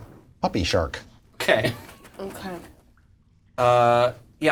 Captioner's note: laughs